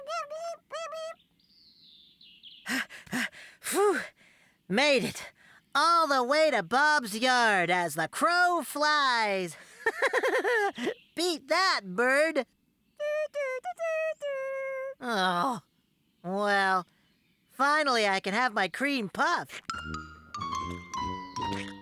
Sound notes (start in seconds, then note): 2.8 panting; 9.7 laughs